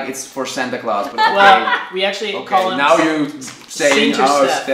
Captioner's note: laughing